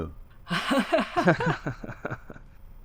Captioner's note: laughter